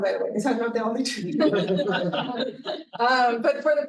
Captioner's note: audience laughing